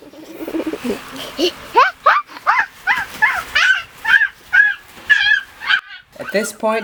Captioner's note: toddler shrieking